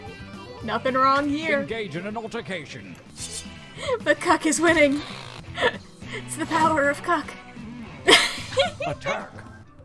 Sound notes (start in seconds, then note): 3.8 through laughter; 7.9 giggles